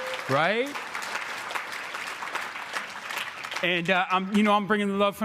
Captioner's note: crowd clapping